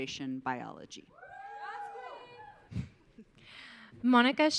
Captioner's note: audience cheering